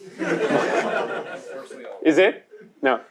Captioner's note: laughter